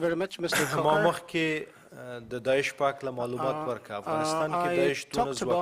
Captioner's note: cough drowns name